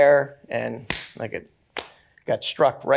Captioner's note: pounds loudly